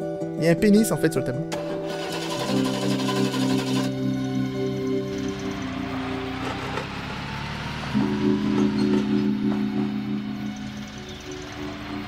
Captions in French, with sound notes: Il y a un pénis, en fait, sur le tableau. *Moteur de voiture*